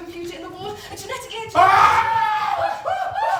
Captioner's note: Hobie screams